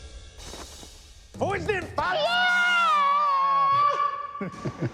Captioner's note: dramatic cymbal crashes; imitating metal vocalist